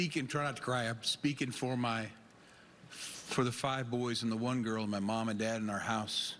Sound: none

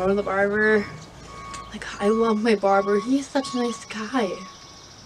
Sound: tractor beeping

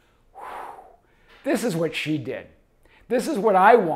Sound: exhales loudly

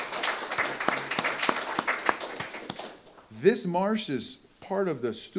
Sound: audience applause

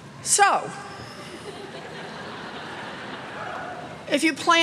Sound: laughter

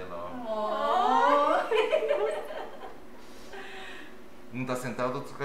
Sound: laughter

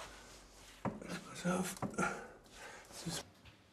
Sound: quiet groaning

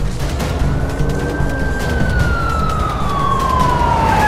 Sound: sirens wailing

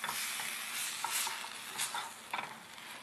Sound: none

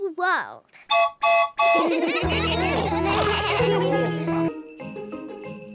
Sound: toots horn; all laugh

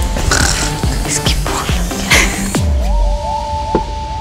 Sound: growling

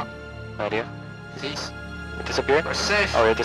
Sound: on the radio

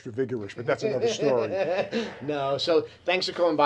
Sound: laughs

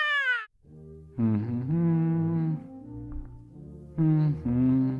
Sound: humming; classical music

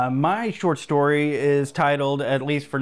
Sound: none

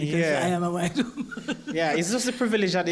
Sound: laugh

